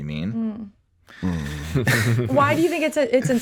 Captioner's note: all giggling